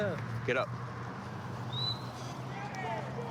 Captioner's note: whistle; indistinct shouting